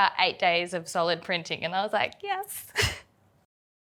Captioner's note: laughs